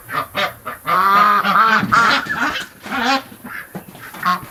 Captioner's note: ducks quacking